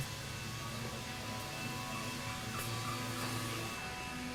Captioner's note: machines whirring